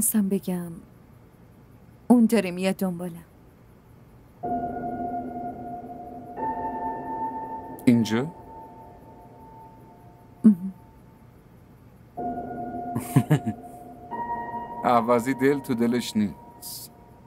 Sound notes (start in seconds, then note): 13.0 laughs